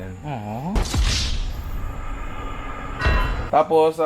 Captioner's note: GTA Wasted sound effect